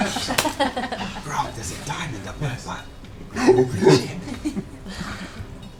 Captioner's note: whispers